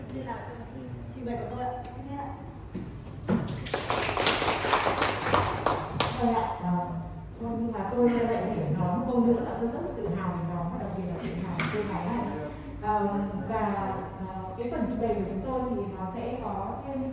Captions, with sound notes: This is my presentation. Thank you for your attention! (applause)